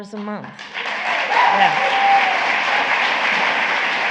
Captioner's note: applause